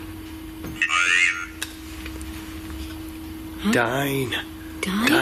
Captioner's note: ghost box speaks